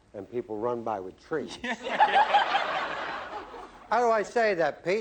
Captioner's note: laughter